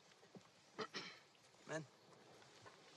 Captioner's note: clears throat